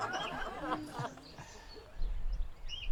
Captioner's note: audience laughter